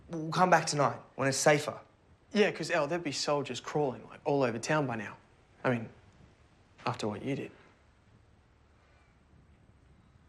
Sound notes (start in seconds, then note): none